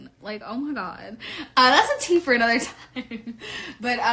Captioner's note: laugh